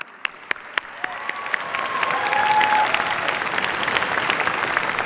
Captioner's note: cheers, applause